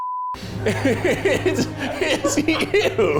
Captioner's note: laughs